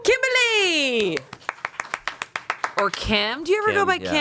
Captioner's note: everyone applauds